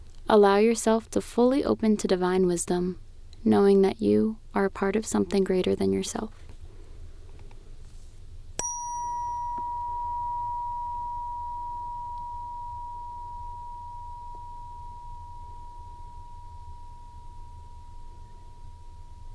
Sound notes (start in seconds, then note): 8.6 bell Ring